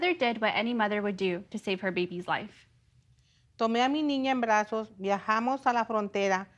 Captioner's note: speaking foreign language